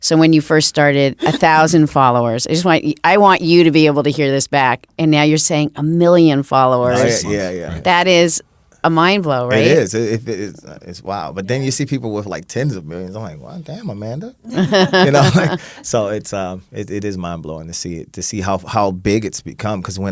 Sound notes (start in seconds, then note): 14.5 laughing